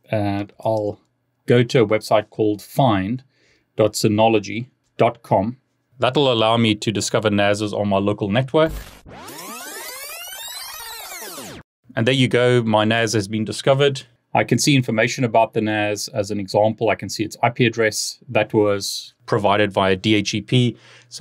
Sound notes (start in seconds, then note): 8.8 disc winding